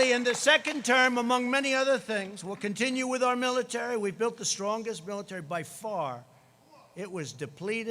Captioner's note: applause